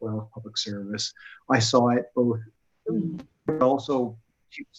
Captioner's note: audio warbles